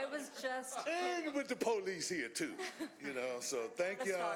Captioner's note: laughter